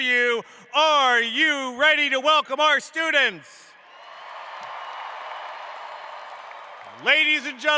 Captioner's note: cheering